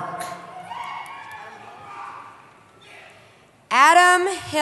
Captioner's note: cheering